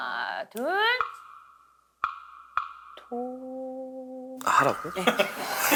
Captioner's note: hesitant